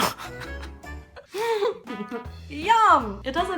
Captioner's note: laughter, regret; giggling